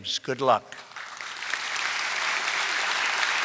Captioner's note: applause